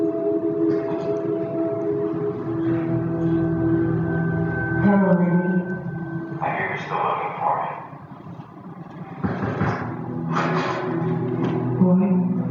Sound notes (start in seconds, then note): 0.0 background music; 5.6 someone knocks on the door